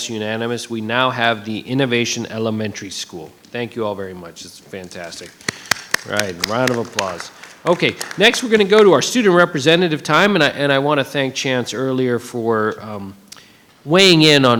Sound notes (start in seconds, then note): 4.9 audience applauding